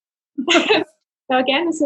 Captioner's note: both laugh